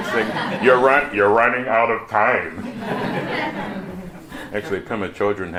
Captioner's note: laughter; laughter